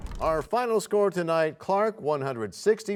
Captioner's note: crashing sound